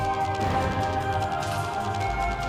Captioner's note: gunshot